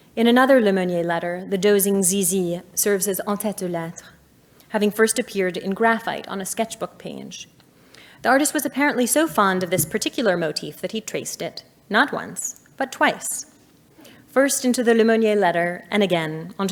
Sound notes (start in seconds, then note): 3.4 speaking in French